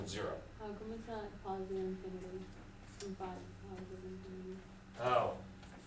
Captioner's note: student speaking faintly